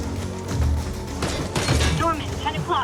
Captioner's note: gunshots boom